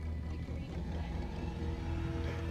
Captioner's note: chattering